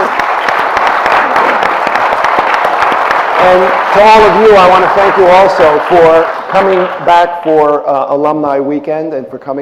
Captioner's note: applause